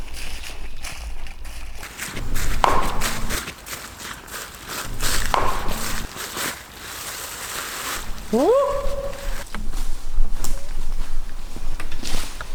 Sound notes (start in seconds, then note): 2.1 knocking; 8.2 whooping